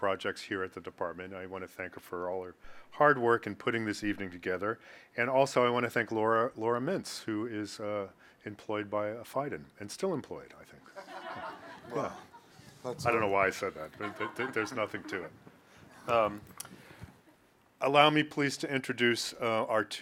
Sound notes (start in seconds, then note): 10.9 audience laughs